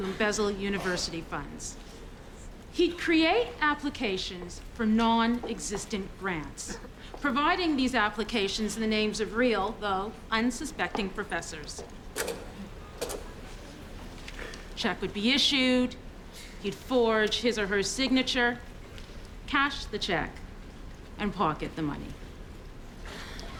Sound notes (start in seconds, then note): 11.7 slide advances